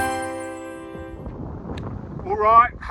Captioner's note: logo chiming; wind whooshing